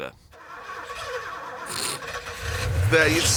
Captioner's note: car engine sputters